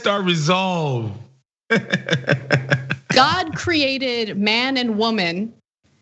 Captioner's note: laugh